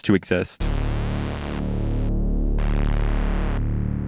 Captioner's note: creepy electronic noises